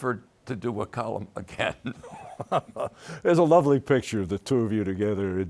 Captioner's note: both laughing